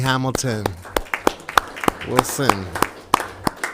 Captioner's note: audience clapping